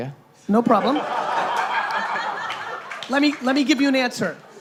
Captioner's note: laughing